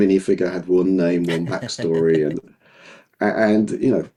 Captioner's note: laughing